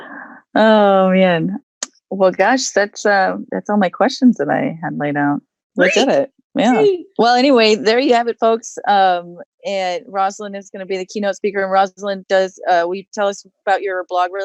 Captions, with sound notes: Oh man. Well gosh, that's all my questions that I had laid out. We did it. (excited cheering) Well anyway, there you have it folks. Roselyn is going to be the keynote speaker. And Roselyn, will you tell us about your blog